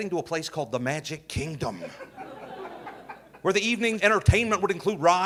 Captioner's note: audience laughing